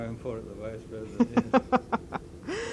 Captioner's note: laughter